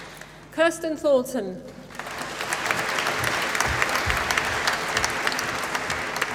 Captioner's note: applause